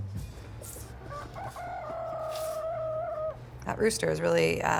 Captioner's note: rooster crowing